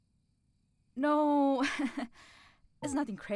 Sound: laughs

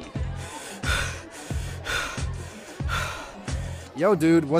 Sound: footsteps; panting

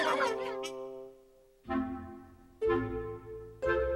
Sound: laughter

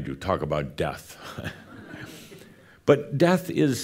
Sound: some chuckles

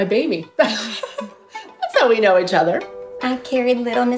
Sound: laughs

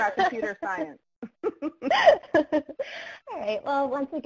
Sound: laughing

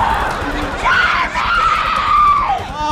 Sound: screams; shrieking

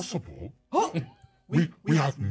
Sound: speaker chuckles

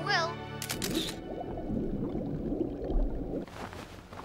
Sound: camera clicks

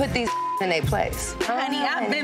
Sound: beep

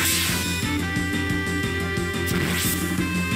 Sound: sword swishes

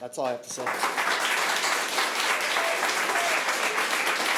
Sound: applause

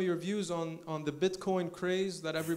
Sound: laughs

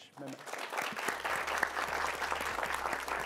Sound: applause

